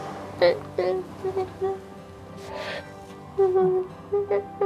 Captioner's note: Emily crying